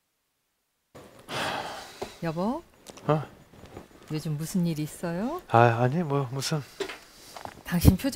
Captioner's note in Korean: 한숨